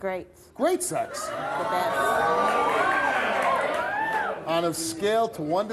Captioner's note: audience cheering